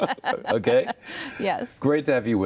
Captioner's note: laughter